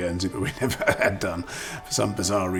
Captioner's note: laughing